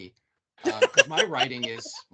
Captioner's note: laughing